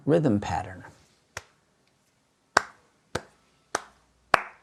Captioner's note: clapping